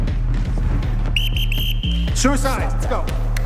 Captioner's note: whistle blowing